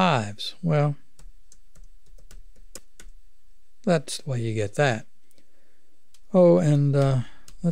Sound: clicking

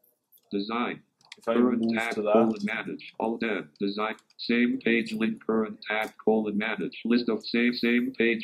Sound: computerised voice

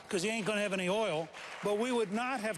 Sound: applause

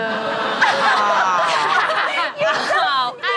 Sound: collective groan

